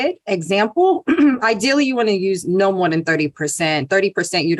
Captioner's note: cough